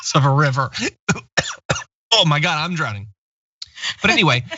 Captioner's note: cough